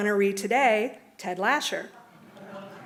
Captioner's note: laughter